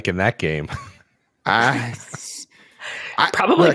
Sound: laughs

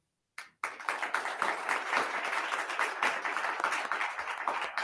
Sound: attendees clapping

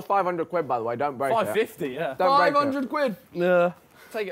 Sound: group chattering

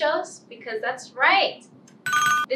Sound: ringing bell

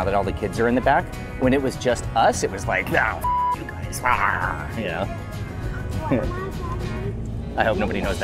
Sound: driving sounds

